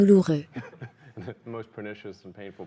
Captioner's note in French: des rires